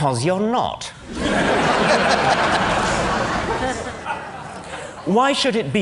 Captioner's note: laughter